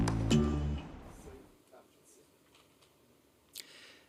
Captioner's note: silence